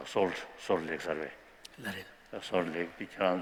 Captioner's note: speaking tibetan